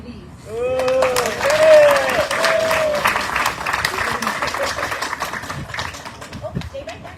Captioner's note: audience cheering, applauding